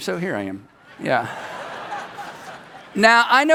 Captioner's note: people laugh